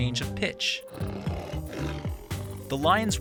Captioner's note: lion roaring